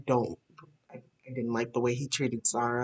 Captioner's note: none